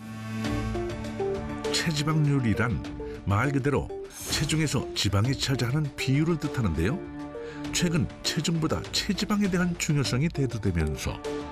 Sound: voiceover

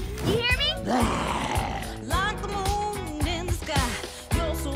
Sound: growls

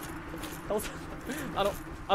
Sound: inhale

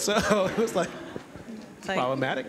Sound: laughter

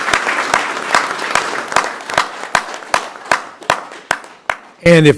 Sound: applause

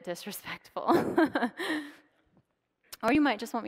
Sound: laughs

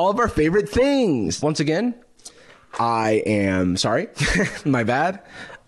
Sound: laughs

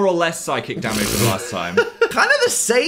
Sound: laughs

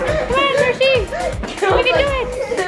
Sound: laughs

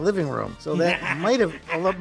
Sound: Pepper laughs

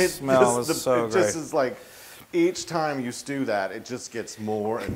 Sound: laugh

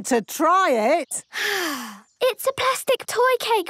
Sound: sighs

